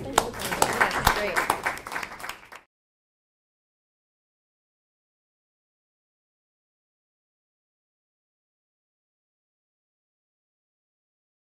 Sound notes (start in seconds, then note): 0.0 audience applauding